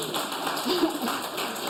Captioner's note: applause